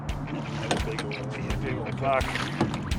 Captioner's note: fish splashing